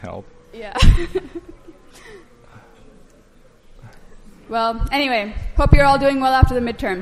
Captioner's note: laughing